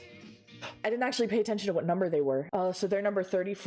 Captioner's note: gasp